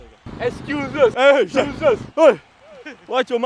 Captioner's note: bickering